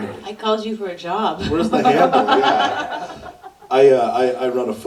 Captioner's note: laughs